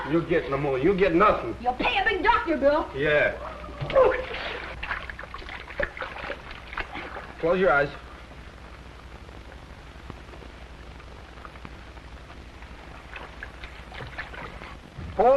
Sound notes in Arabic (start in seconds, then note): 3.4 غرغرة